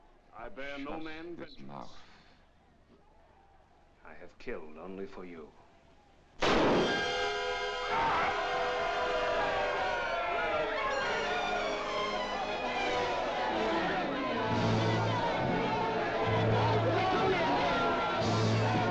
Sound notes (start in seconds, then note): 6.3 dramatic music; 6.4 gunshot; 9.2 crowd clamoring; 9.2 dramatic music